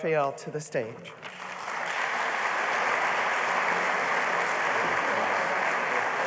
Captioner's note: applause